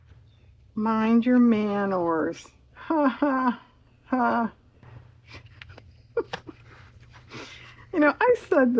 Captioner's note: laughs